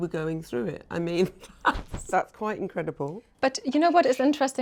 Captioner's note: laughs